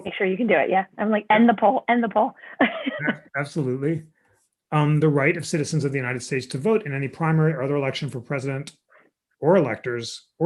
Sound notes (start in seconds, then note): 2.6 laughter